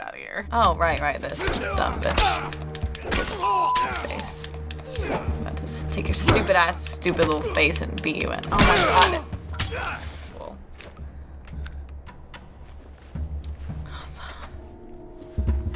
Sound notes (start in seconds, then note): 1.4 Joel grunts; 9.6 Joel grunts; 11.3 tense music; 12.9 whispering